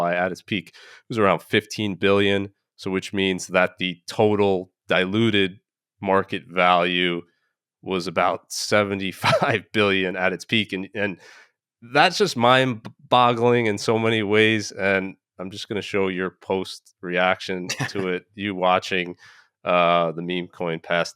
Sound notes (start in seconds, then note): 9.2 laughing; 17.6 laughing